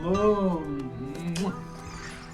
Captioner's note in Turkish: teypten gelen ses